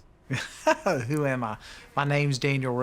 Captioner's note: laughs